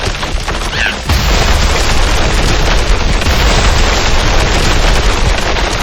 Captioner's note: explosion booming